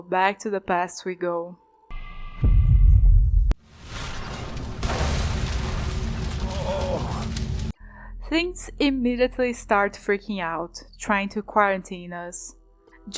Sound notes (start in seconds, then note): 3.6 destruction sounds